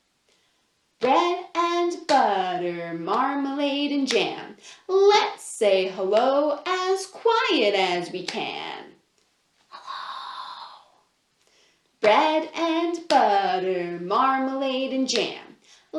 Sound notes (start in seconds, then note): 0.9 chanting; 9.8 whispers